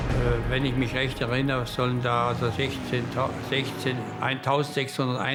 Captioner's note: Hans speaking German